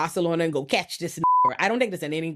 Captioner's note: beep